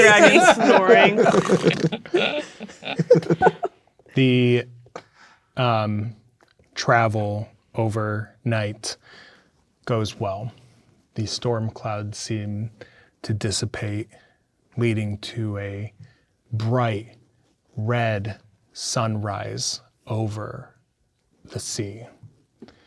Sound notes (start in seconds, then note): 0.0 players laughing; 1.2 both imitating snoring